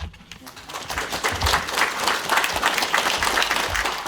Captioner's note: applause